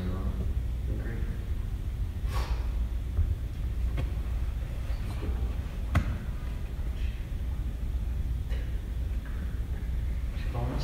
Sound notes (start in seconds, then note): 2.2 sniff